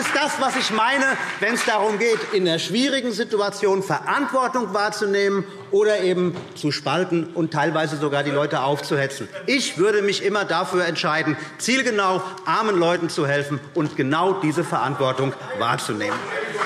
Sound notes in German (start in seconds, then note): 9.4 Zurufe AfD; 15.5 Beifall BÜNDNIS 90/DIE GRÜNEN – Zurufe DIE LINKE